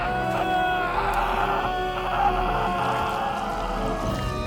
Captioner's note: flesh squelches; Trainor screams